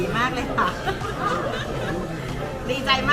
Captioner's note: laughs